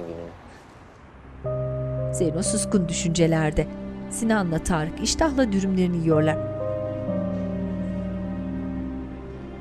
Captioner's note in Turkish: Kuş cıvıltısı sesi